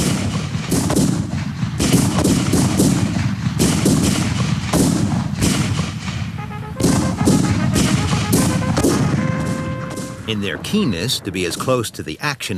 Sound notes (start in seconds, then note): 0.1 guns bang; 6.3 horn trumpeting